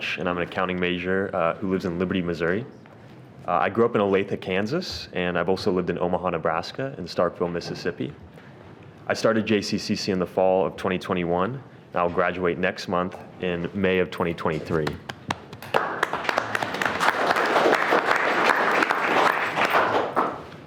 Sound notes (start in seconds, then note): 14.6 people clapping